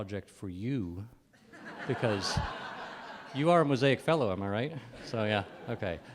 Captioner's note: laughter